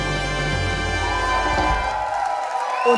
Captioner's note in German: Jubel und Applaus